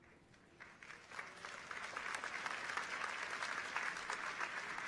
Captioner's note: audience applauds